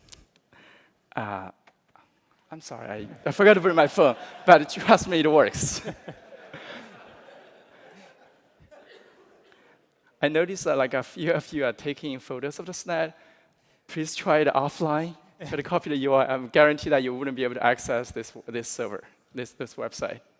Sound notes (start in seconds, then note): 4.0 laughter